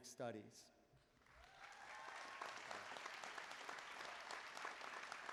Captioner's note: applause